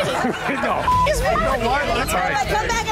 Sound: beep

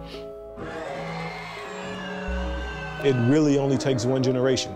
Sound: audience cheering

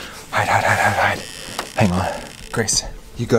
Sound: door squeaking

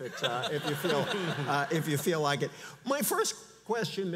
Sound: audience laughs

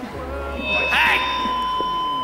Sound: mic screach

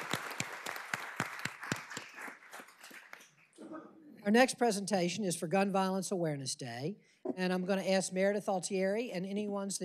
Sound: applause

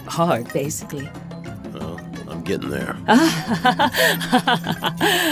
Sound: laughs

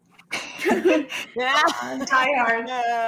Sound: all laughing

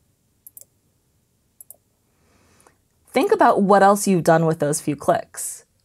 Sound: clicks

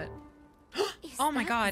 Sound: gasp

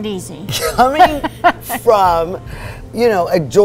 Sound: laughs

